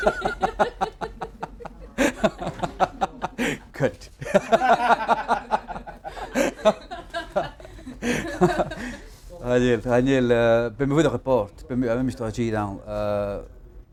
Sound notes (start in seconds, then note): 0.0 laughter